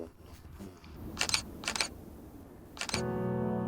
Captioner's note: camera shutter clicks